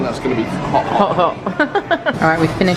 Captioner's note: laughs